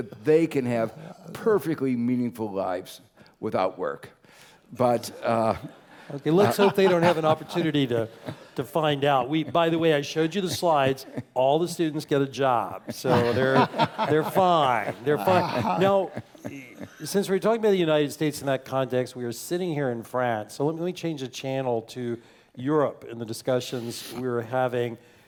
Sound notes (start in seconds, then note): 0.0 laugh; 5.0 laugh; 12.8 laugh